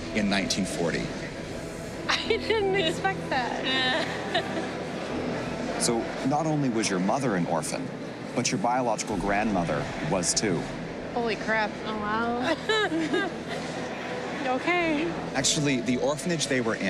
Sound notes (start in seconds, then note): 3.9 chuckles